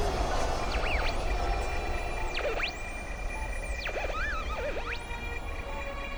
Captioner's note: beeping